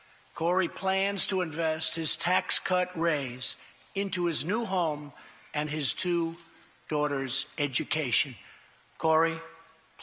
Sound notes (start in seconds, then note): none